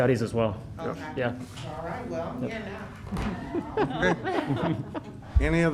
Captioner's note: laughter